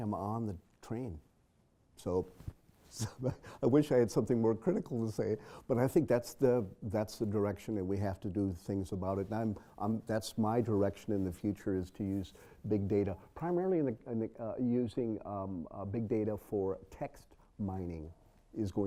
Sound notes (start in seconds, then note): 2.2 laugh